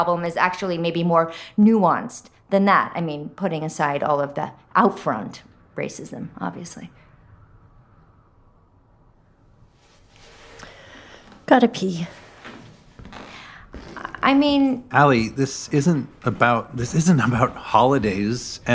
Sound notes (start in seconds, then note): 11.8 footsteps